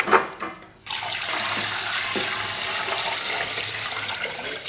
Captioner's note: water pouring